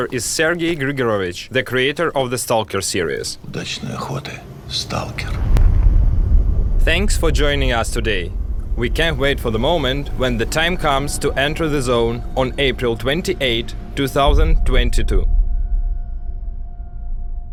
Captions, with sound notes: is Sergiy Grygorovych, the creator of the S.T.A.L.K.E.R. series. [SPEAKING RUSSIAN] Thanks for joining us today. We can't wait for the moment when the time comes to enter the Zone on April 28, 2022.